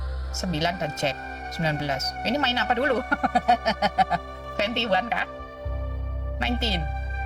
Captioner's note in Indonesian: tertawa